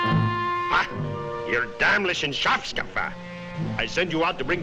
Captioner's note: person speaking foreign language